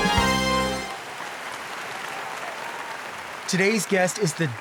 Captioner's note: audience applauding